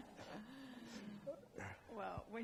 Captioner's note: laughing